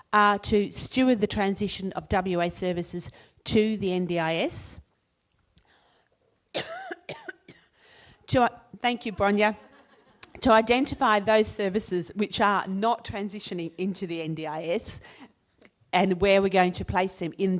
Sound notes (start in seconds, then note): 6.5 coughs